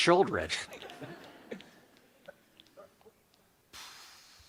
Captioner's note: people laugh